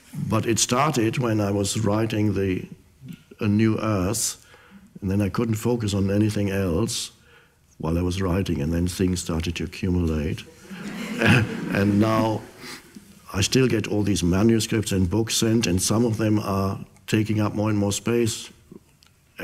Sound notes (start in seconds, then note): 10.4 audience laughs